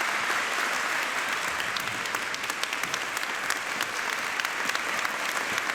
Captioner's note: audience applauding